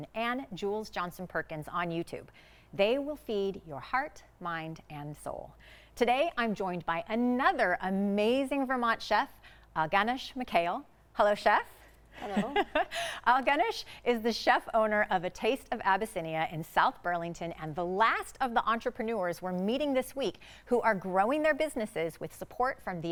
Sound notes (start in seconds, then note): 12.2 chuckles